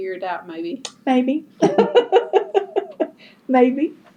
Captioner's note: laughs